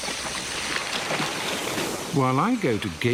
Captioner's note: elephants splashing